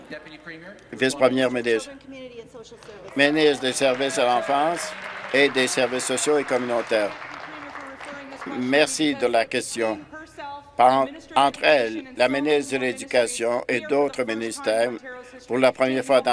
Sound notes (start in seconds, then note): 6.4 applause